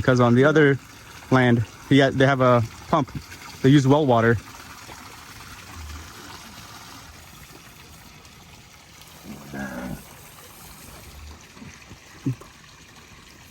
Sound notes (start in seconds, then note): 4.7 water flowing